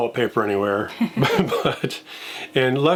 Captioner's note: laughing